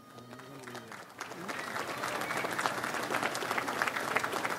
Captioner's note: audience applauds